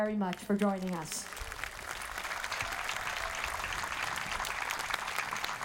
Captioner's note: audience applauding